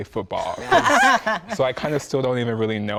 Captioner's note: men chuckle